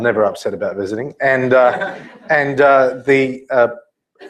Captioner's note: laugh